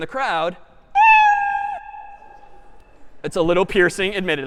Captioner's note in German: meow